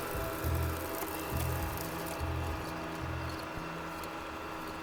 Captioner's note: film reel whirring